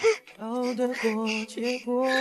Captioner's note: laughing